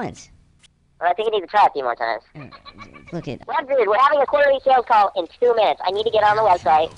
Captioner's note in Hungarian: röhögés a háttérben